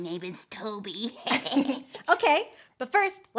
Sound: chuckling

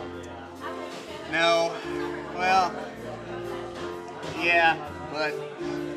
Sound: sighs

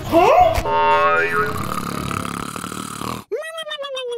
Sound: loud snoring

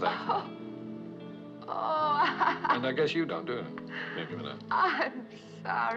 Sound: laughs

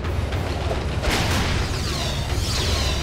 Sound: blasting

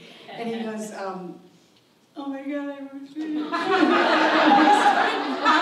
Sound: imitates sobbing; audience laughs

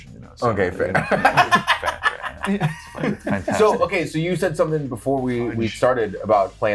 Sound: laugh

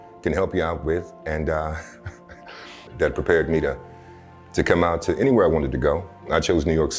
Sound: laughter

